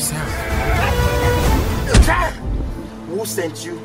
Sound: men groaning; punch thuds

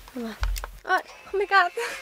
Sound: snap!

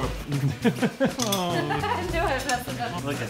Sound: ohhhhhh

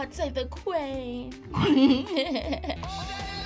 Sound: both laugh

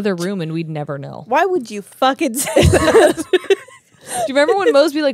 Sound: laugh

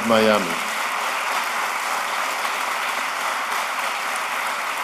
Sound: applause

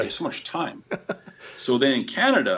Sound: laughter

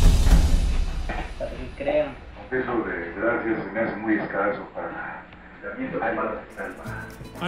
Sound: speaking Spanish

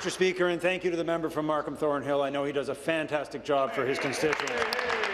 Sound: applause

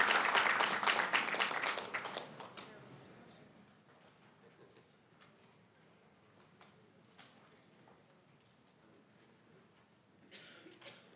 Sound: applause; applause

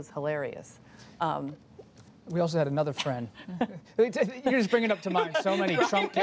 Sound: laughter

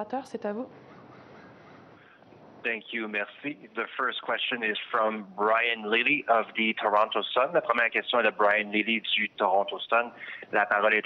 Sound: speaking french

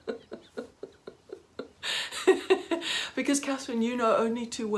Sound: laughing

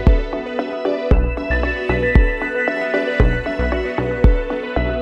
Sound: water bubbling

